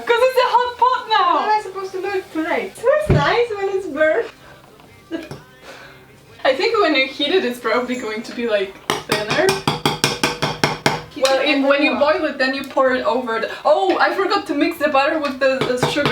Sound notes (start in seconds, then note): 8.8 hits pot repeatedly